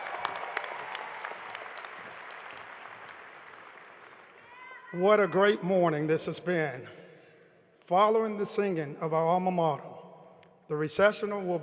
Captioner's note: cheering and applause